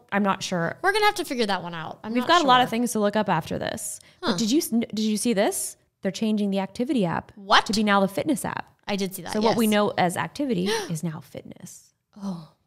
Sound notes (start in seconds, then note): 10.6 gasps